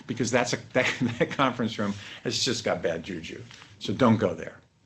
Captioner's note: laughter